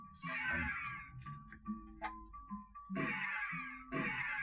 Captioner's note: more horrid sound effects